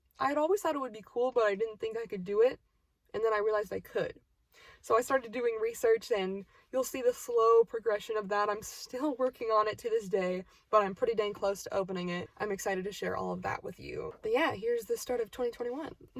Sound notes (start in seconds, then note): none